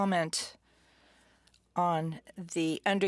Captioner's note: speaking french